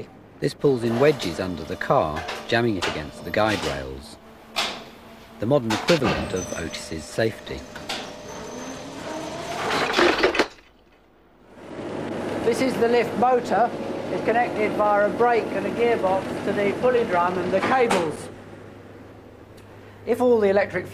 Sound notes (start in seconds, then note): 8.9 whirring noise; 9.6 clunk; 15.6 motor; 18.2 motor switches off